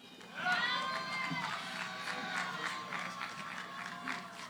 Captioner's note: cheering, applause